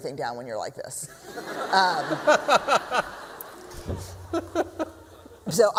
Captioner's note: laughter